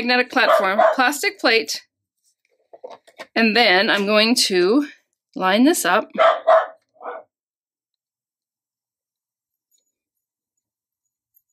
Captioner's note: dog barking